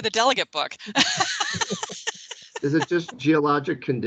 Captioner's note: all laughing